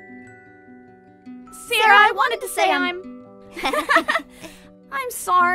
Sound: heartfelt music; both girls laugh

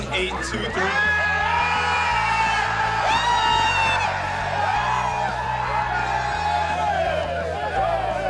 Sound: cheering

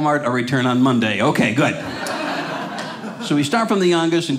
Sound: audience laughing

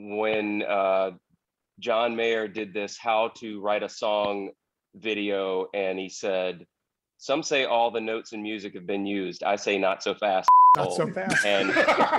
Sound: laughter

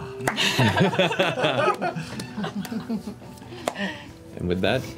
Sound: all laugh

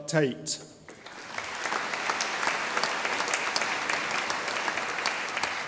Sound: audience applauding

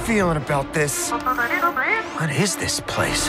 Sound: BB-8 chattering

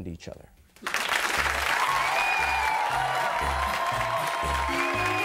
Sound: audience cheering and applauding; upbeat music playing

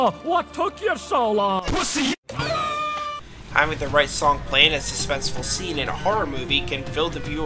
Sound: Empathy Bug cries in pain

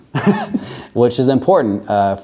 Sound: laughs

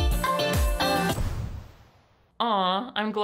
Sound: dramatic thud

